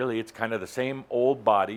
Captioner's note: none